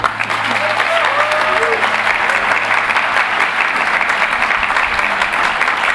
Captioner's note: applause